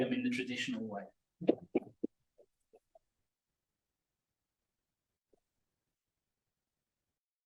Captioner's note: clapping hands